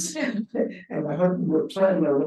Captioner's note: chuckles